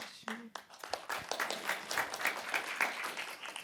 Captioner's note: applause